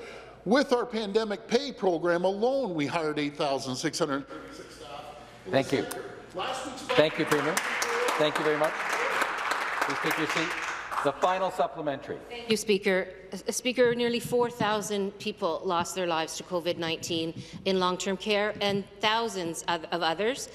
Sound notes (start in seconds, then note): 11.2 some Applause